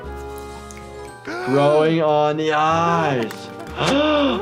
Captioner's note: gasps